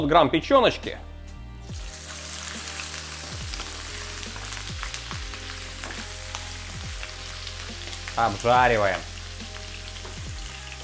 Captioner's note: hissing; lo-fi music